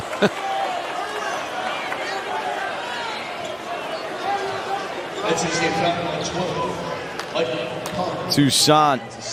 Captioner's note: laughter